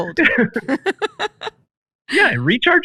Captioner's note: laughs